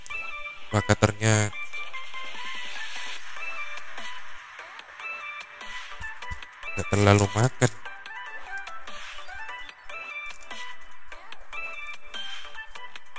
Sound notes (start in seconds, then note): 6.8 clap